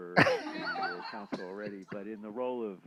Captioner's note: chuckling